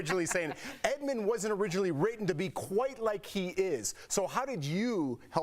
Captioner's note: laughter